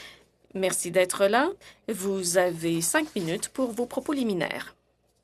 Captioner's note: speaking French